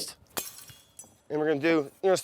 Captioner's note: glass shatters